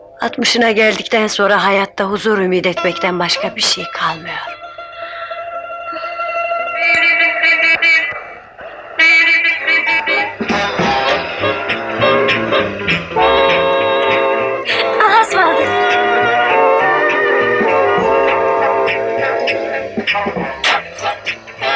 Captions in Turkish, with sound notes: ...Altmışına geldikten sonra hayatta huzur ümit etmekten başka bir şey kalmıyor. [Sokaktan gelen korna sesi] [Fonda hareketli film müziği] Allah'a ısmarladık!